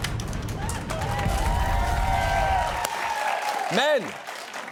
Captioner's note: cheering, applause